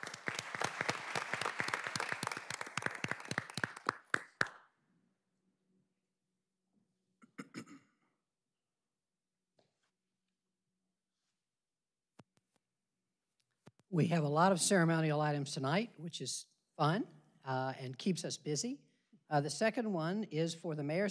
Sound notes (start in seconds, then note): 4.8 applause